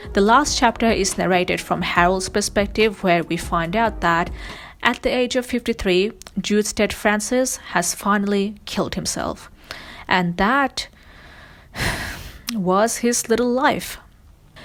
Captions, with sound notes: The last chapter is narrated from Harold’s perspective where we find out that, at the age of 53, Jude St. Francis, has finally killed himself. And that (sighs) was his little life.